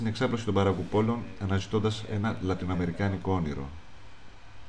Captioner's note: Latin